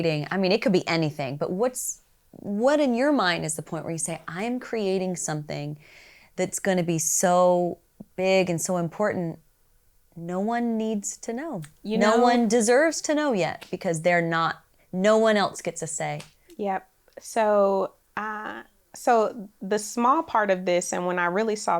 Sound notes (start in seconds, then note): none